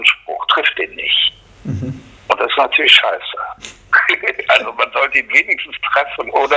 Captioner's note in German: lacht